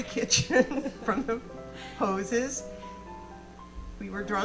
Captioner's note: laughing; audience laughing